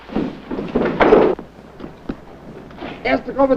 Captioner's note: gunshots firing